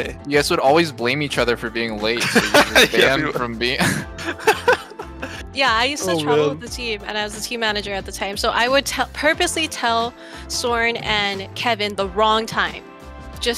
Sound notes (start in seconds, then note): 3.7 laughs